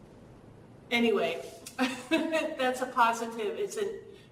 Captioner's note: laugh